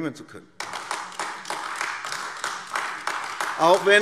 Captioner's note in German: Beifall AfD